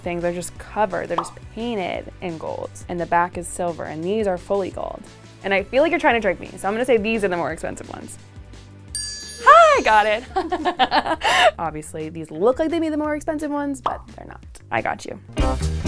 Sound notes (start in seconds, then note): 8.9 bell dings; 9.5 Natalie laughs